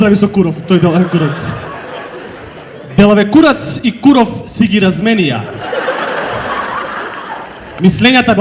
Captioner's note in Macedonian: смеа